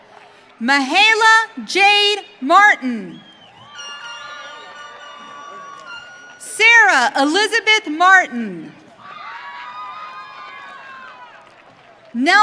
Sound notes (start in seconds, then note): 3.2 audience cheering; 9.0 audience cheering